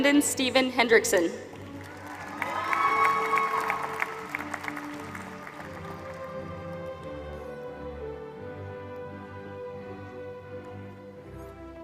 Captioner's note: applause